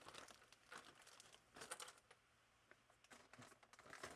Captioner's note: plastic crinkling